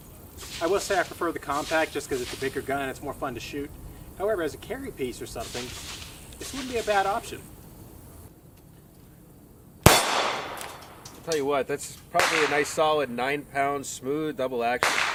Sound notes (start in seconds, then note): 9.8 gunshot